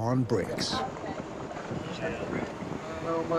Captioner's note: indistinct chatter